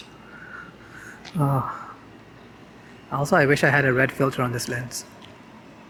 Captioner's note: moans